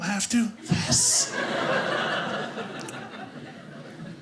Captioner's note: audience laughing